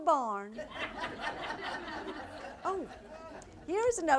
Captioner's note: audience laughter